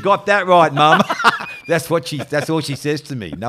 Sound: laughing

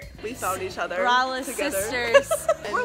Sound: laughs

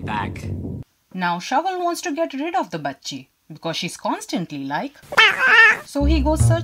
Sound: annoying cat noises

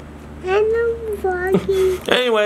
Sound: mumbling

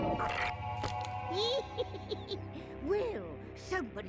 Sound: cackling

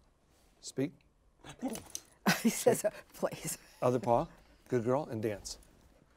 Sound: Sunny grunts and shakes her head

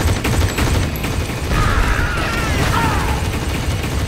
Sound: screaming

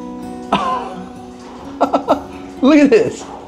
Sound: Rocky laughing

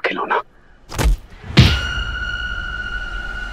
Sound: thud

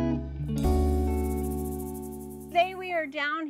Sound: wings fluttering

